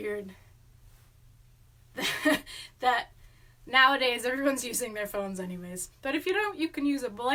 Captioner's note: laughs